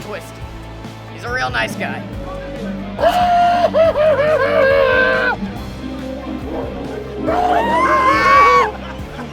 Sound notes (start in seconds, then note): 3.0 eerie laugh